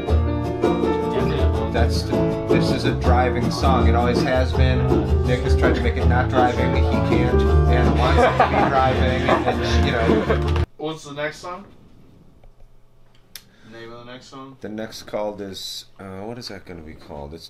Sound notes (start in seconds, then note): 8.0 laughter